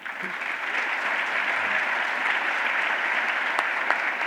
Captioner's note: applause